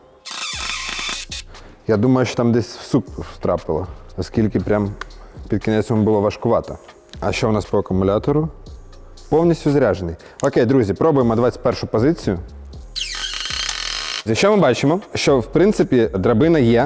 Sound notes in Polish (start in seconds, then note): 0.1 dźwięk wkrętarki; 12.9 dźwięk wkrętarki